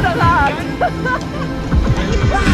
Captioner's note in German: Lachen